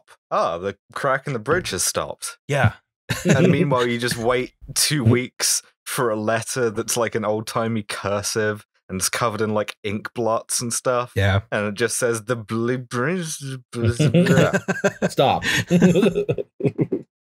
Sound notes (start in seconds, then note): 12.5 cursive voice; 13.8 laughter